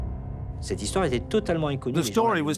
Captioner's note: dramatic music; speaking foreign language